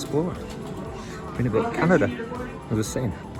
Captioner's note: interupted by tannoy